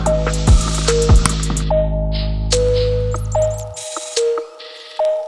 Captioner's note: pliers snapping